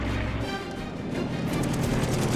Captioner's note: rapid gunfire